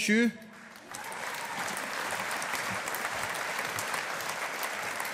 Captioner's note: audience applauding